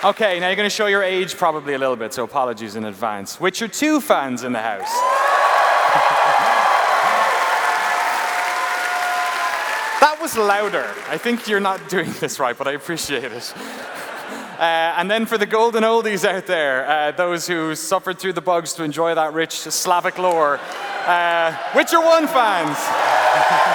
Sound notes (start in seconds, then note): 4.8 cheers and applause; 23.5 cheers and applause